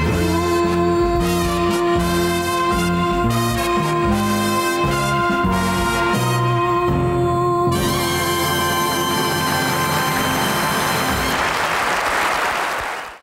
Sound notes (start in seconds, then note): 7.9 triumphant jazz music; 10.1 audience applauding